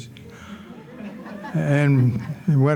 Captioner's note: audience laughing